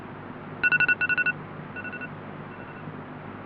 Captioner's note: alarm blares